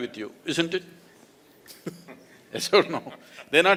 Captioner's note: laughs